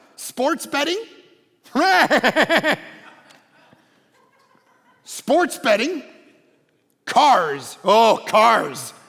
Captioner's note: laughing